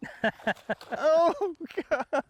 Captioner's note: laughing; laughs